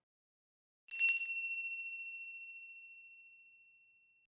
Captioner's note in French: bruit de cloche